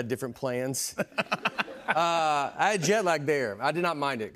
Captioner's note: laughs